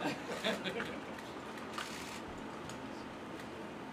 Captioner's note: laughter